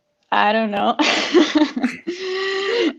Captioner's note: laughs